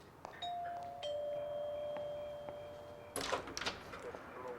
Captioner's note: doorbell ringing